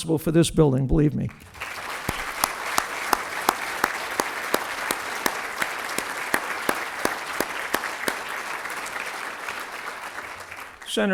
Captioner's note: applause